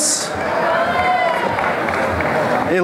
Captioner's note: applause